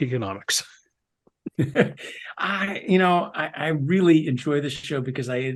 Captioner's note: laugh